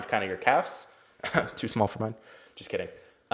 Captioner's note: coughs